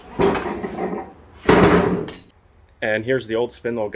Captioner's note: deck clanging